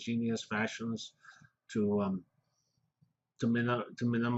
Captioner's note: pause